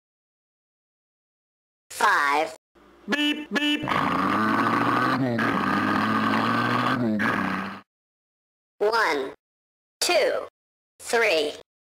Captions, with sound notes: Five [ beep] [ beep] [ engine accelerating] One Two Three